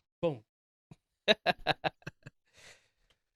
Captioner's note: laughing